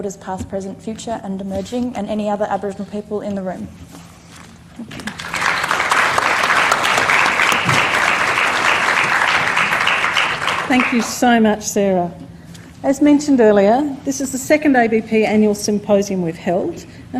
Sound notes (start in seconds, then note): 5.0 applause